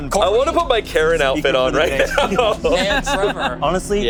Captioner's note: laughs